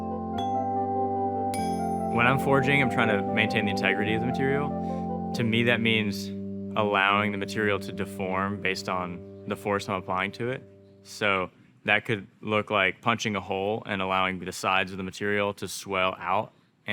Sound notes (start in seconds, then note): 0.1 soft music continues; 1.6 metal clinking